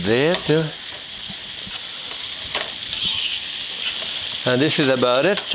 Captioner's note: brussels sprouts sizzling